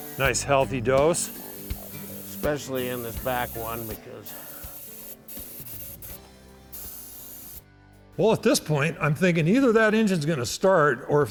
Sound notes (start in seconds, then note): 0.0 sprays engine; 4.3 spraying engine